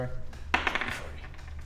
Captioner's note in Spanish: Tirada de dados